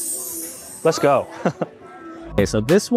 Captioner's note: chuckles